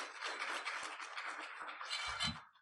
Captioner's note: applause